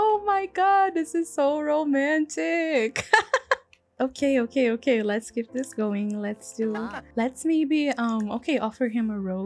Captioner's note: laughs